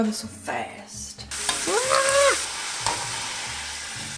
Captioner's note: screams